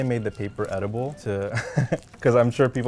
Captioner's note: laughs